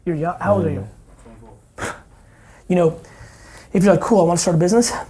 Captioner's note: scoffs